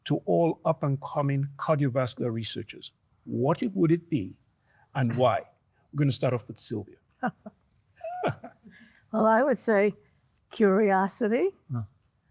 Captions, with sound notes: to all up-and-coming cardiovascular researchers, what would it be and why? We're going to start off with Sylvia. - (chuckles) Well, I would say curiosity,